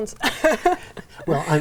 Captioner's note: laughs